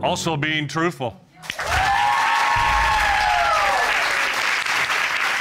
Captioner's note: audience cheering